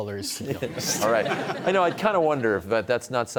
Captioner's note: laughter